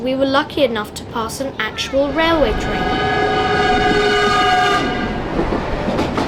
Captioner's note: train horn